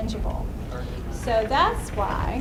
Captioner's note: voiceover